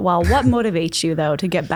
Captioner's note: laughs softly